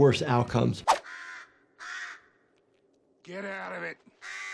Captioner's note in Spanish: canto de pájaro